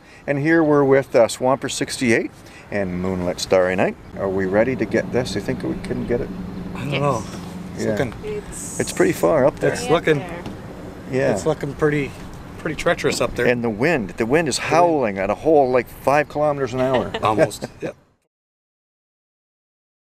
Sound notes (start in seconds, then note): 16.6 chuckles